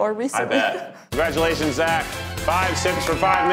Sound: contestants clap and cheer

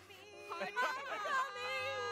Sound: laughs

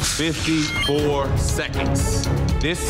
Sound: dramatic music; digital beeping

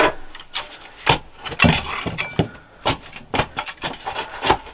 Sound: dirt rustling

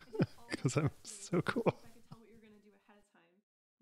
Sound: laughs

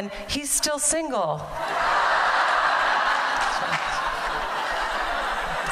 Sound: laughter

